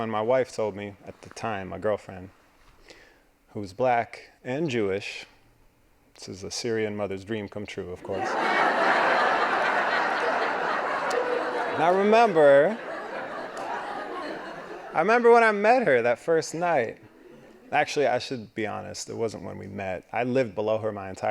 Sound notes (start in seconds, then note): 8.0 laughing